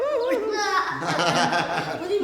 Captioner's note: giggling; all laughing